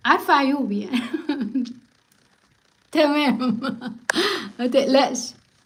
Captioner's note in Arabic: ضحك